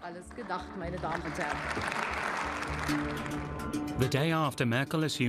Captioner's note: clapping